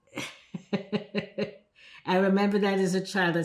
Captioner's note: laughing